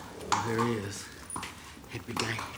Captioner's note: hooves clopping